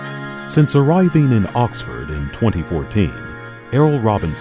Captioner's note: upbeat trumpets; voiceover